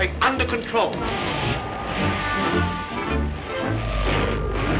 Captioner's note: machine whirs